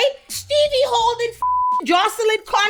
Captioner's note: beep